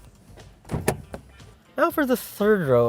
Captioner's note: door opens